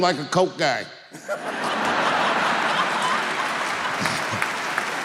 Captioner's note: audience laughing